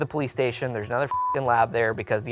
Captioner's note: beep